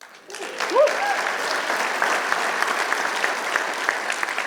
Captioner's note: applause